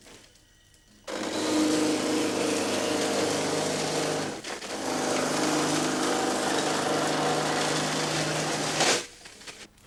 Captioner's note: grinding sound